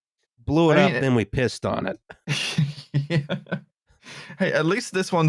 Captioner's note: laughs